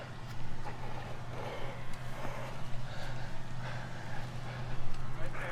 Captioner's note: intense Nonstop Breathing